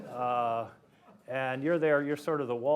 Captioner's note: laughter